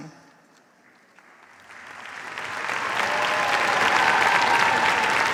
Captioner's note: cheers, applause